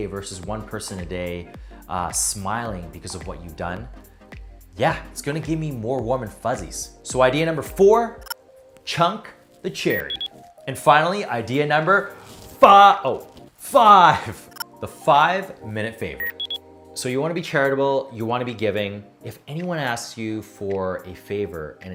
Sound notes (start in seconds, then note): 8.3 electronics chirping; 9.9 electronics beeping; 13.7 laughs; 16.2 electronics beeping; 16.2 electronics chirping